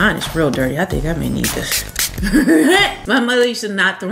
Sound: laughs

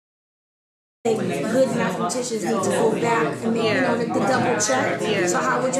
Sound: educators chatting

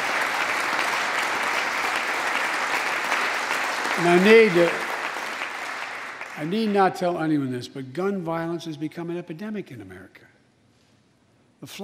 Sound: applause

